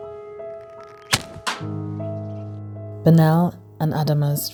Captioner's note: stone thudding